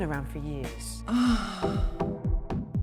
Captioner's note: woman moans